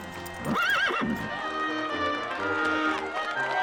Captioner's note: whinnies